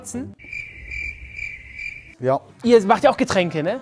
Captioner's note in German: Grillenzirpen